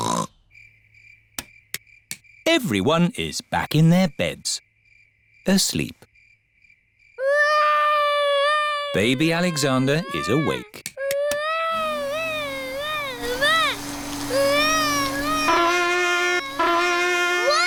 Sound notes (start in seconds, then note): 0.0 oinks; 7.2 baby alexander crying; 11.7 vacuum cleaner whirring; 15.2 trumpet blowing